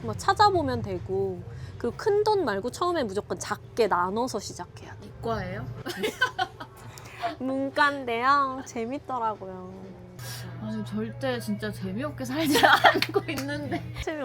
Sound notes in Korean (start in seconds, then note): 5.8 웃음